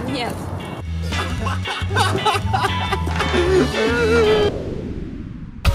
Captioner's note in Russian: ахахахахахахахахаха